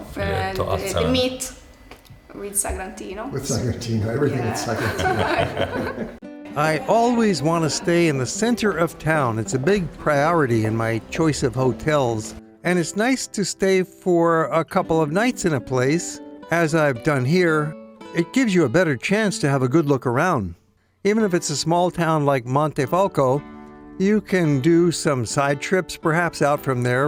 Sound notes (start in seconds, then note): 4.3 laughs